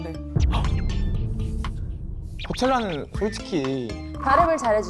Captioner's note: sound effect: boom